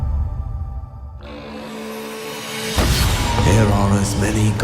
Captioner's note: horn blows